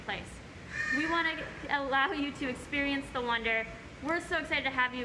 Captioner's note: bird squawk; bird squawk, stutters in speach